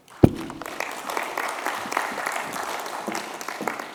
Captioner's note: applause